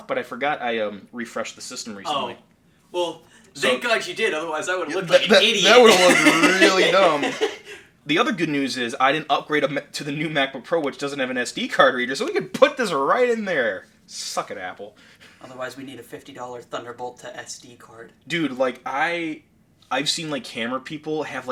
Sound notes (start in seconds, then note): 5.0 laughing